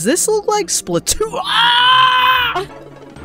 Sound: gargled scream

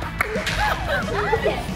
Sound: burst into laughter

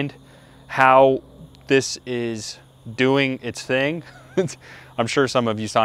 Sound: laughing

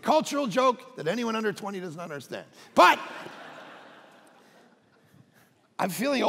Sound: congregation laughing

